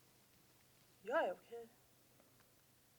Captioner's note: in Swedish